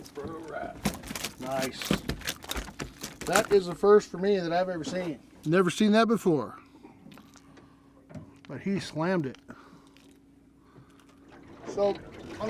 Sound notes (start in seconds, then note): 0.7 fish thrashing